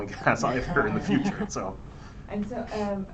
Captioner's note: laughter